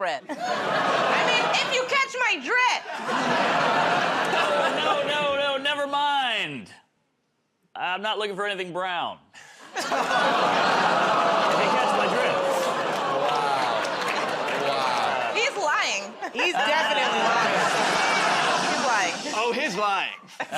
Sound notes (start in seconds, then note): 2.8 laughter; 9.7 laughter, groaning; 16.0 laughter